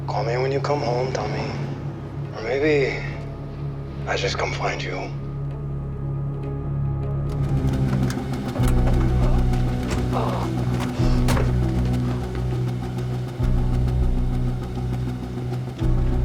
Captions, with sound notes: Call me when you come home, Tommy. Or maybe I just come find you. (tense music) (doors thudding)